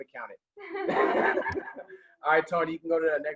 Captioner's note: laughing